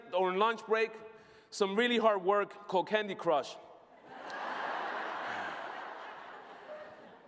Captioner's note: laughter